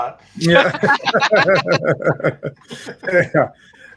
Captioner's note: all laugh